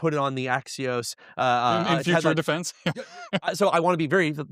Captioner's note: chuckling